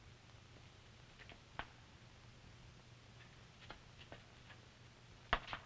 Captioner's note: none